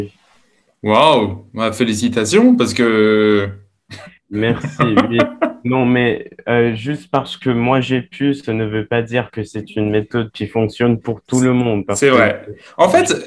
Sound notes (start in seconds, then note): 3.9 laughs